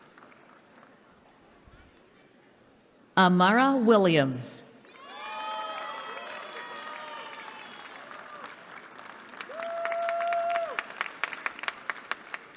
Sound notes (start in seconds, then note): 4.9 cheering